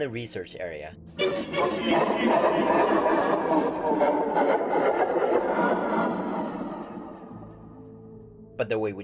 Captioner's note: high-pitched laughter, slowly decreasing in pitch